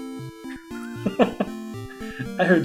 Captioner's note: laughs